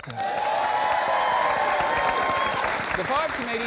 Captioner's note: applause